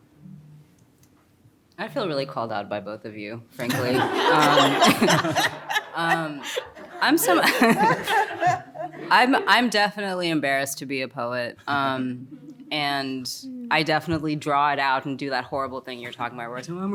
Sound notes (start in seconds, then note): 3.6 all laugh